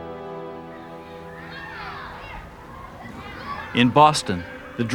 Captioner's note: children Chattering